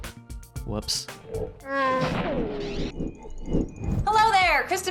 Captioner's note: chewbacca grunt